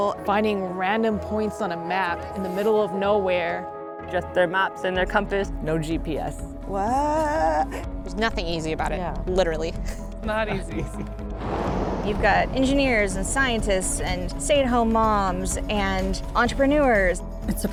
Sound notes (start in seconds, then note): 11.3 sounds of vehicle driving